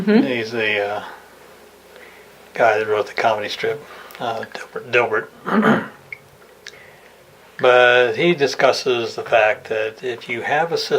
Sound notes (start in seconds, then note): 5.4 clears throat